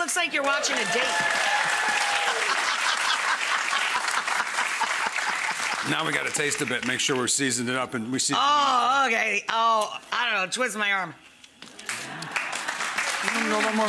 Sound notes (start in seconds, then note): 0.1 audience applauding; 2.3 Rachael laughing; 11.7 audience applauding